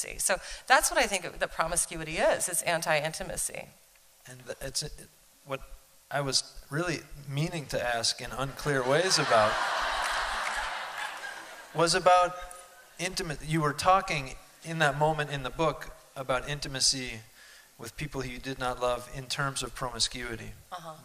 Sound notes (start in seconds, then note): 8.8 laughter